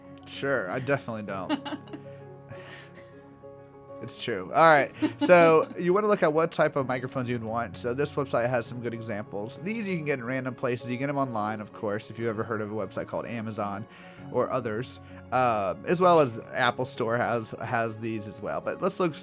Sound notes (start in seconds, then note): 1.8 laugh